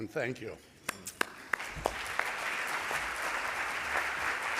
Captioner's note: applause